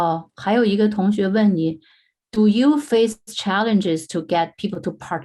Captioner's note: speaking in foreign language